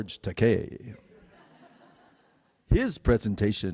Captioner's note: audience chuckles